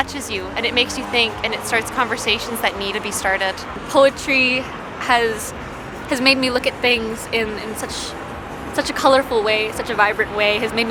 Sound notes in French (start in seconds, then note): none